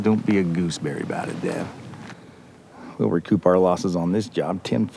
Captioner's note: none